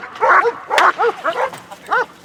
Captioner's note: gunshots, dogs barking